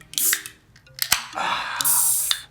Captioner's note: soda can opens; sighs